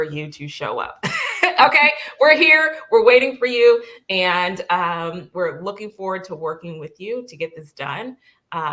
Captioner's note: laughter